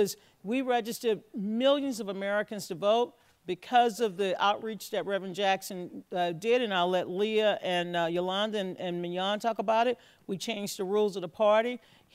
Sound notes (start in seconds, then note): none